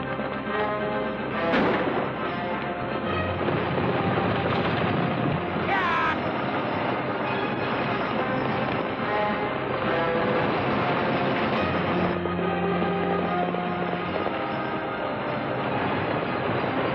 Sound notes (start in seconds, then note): 1.4 gunshots and horse trotting; 8.3 horses galloping